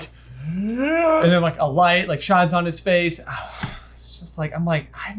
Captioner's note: gasps; exhales